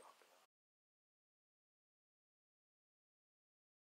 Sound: silence

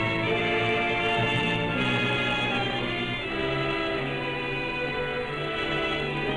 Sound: none

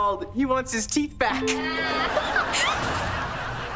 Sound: laughing

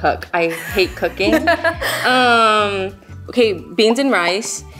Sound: laughing

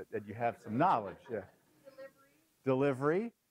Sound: laugh

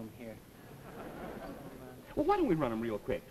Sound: audience chuckles

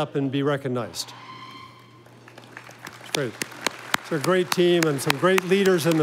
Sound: audience applauding

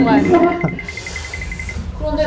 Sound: nervously laughing

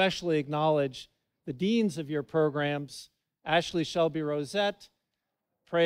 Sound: none

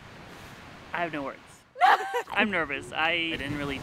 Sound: laughs

